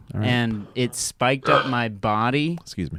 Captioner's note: belches loudly